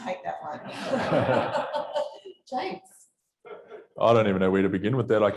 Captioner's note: audience laughs